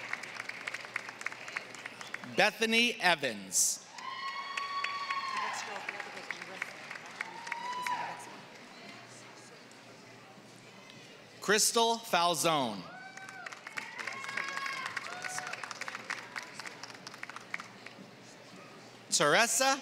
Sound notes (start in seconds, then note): 0.0 applause; 6.8 applause